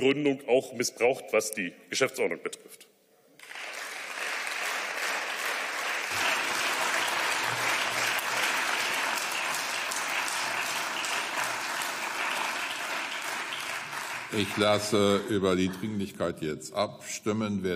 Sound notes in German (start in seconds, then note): 3.4 Beifall